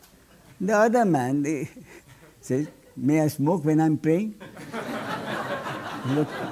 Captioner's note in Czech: smích